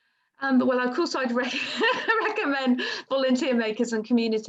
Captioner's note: laughs